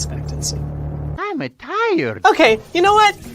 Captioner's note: Mario voice; strained